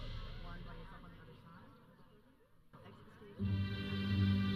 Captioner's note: audience chattering; processional music